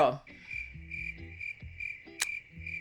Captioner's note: crickets chirping